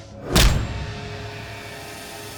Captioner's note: fist thuds; menacing music